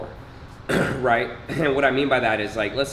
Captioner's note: clearing throat